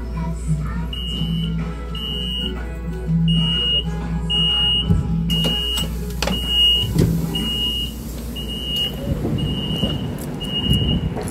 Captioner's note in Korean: 출입문 열림